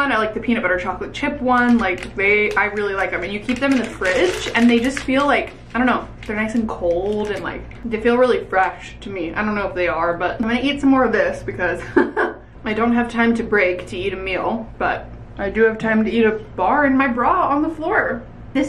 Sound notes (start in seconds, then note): 12.1 laughs